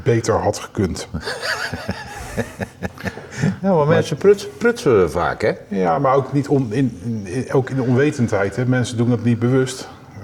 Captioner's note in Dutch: gelach